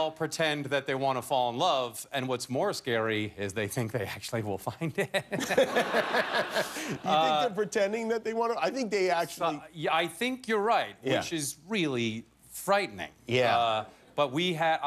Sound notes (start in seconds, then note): 7.1 laughter